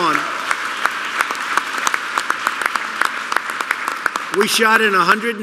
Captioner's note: applause